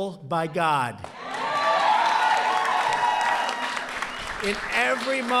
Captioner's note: applause